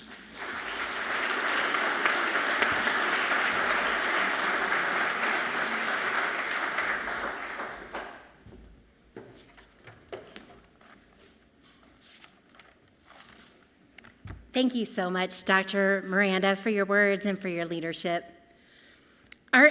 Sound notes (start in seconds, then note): 0.0 audience clapping loudly; 10.2 paper shuffles softly